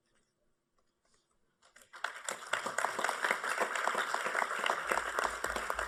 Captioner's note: applause